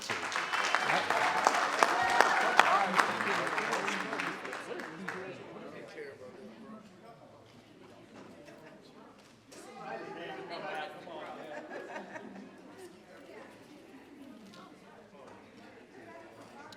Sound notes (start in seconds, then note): 0.0 audience applauding; 3.1 team chattering